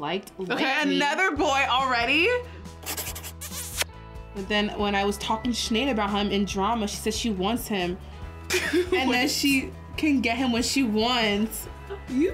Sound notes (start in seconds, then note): 2.8 kissing noises